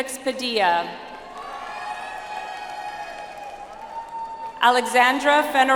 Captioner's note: audience applauds